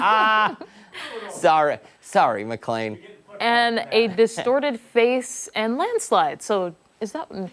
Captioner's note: laughter